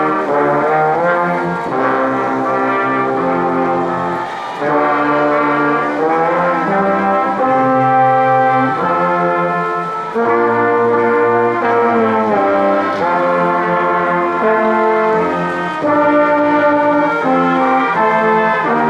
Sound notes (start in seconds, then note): 4.8 ceremonious music continues; 12.2 crowd applauding